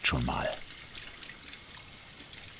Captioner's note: splashing